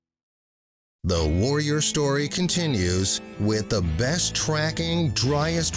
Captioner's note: voiceover